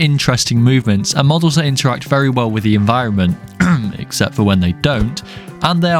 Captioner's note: cough